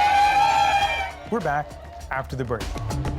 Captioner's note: cheers and Applause